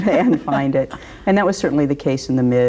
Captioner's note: laughs